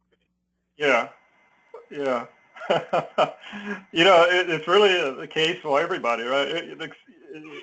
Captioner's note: laugh